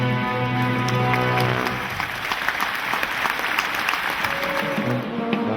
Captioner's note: audience applauding